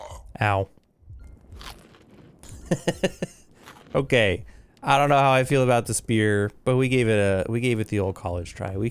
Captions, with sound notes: Ow. [Laughs] Okay. I don't know how I feel about the spear, but we gave it a, we gave it the old college try.